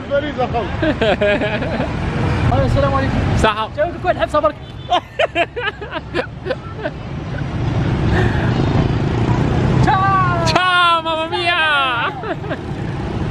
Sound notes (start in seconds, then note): 0.8 giggles; 4.9 laughter; 7.1 engine sound